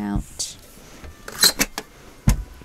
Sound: hinge creaks

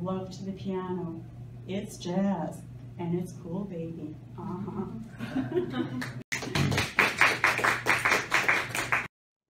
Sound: applause

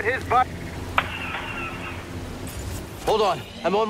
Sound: طلقات

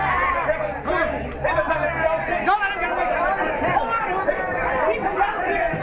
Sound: ambient of the crew

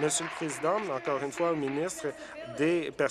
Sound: applause

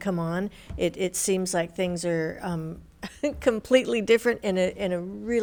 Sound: chuckles

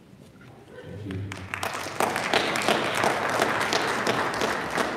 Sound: audience applauding

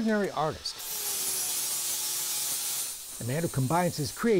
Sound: loud grinding noise

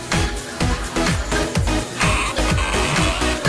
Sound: boing-oing-oing

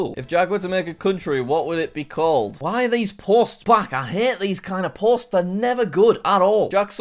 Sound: none

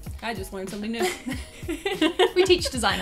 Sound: both laugh

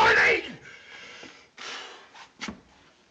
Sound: sighs

